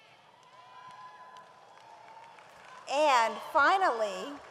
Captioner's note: audience applauds